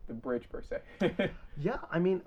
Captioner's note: chuckles